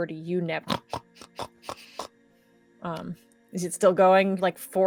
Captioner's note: Pivam snorts